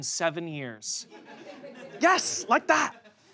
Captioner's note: audience laughs